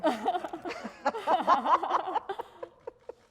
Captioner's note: laughter